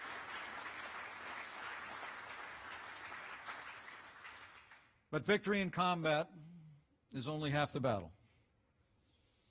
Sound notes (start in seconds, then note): 0.0 applause